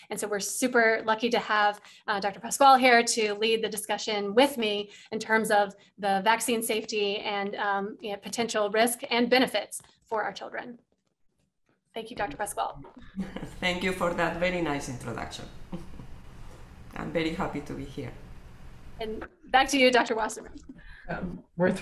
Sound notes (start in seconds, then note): 12.9 laughs